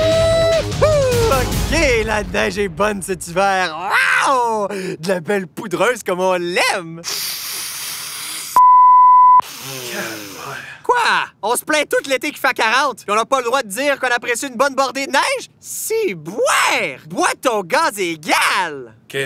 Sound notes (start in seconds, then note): 8.6 beep